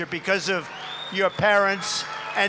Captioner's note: applause